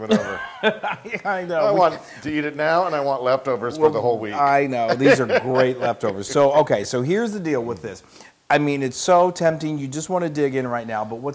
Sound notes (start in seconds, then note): 0.0 laugh